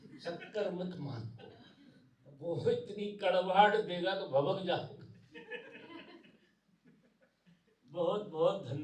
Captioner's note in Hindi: हंसी